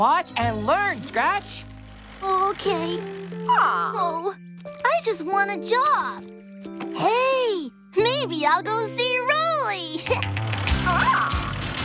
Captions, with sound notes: WATCH AND LEARN, SCRATCH! OH, OKAY. ( Squawk ) OH, I JUST WANT A JOB. HEY! MAYBE I'LL GO SEE ROLEY! ( Giggles ) ( Squawk )